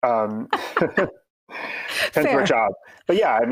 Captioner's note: both laughing